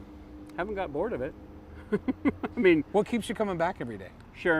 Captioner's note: laughs